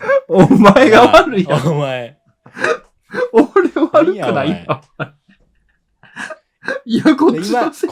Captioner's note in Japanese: 笑い